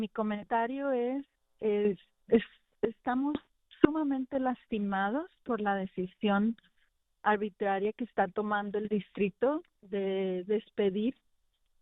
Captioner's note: speaking in spanish